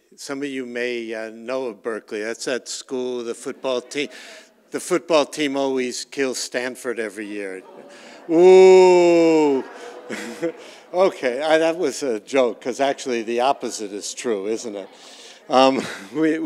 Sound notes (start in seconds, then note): 7.9 audience murmurs; 10.4 audience laughs